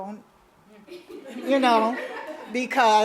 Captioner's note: audience laughs